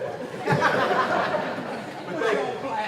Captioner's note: laughing